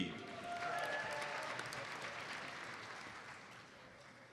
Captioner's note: audience applauds